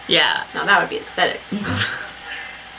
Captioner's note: laughs